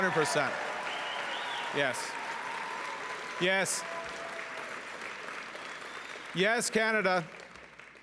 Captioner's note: cheering and Applause